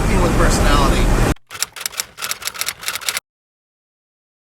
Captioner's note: clicking